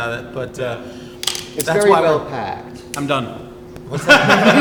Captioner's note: all laugh